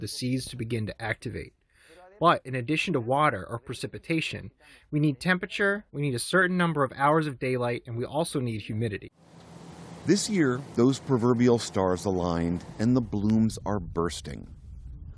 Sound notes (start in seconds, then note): 10.7 voice-over